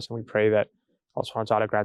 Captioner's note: speaking in foreign language